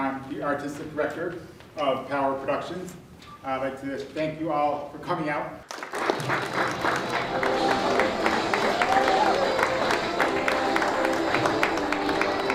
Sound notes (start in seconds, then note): 5.6 audience applauds